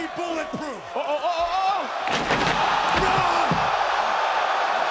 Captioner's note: audience cheering